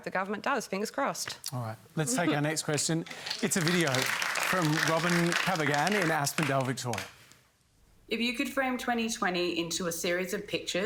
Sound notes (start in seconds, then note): 3.0 applause